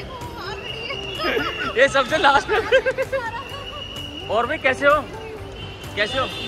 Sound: laughter

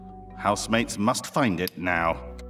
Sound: none

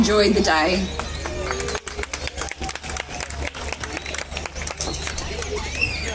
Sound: applause

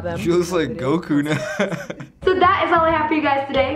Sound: chuckles

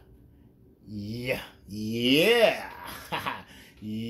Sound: laughs

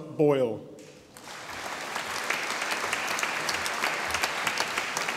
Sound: audience applauding

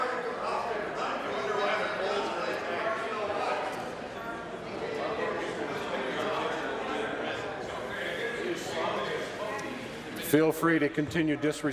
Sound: conversation din

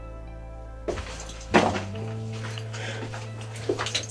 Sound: shuffles

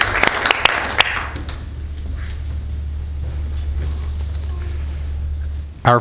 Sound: applause

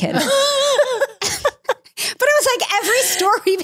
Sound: laughing

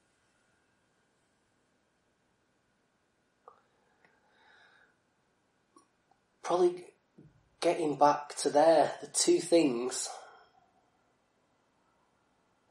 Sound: silence

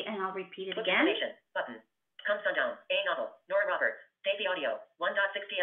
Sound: VoiceOver voice

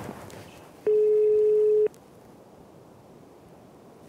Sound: phone dialing

